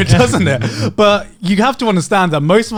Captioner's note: laughing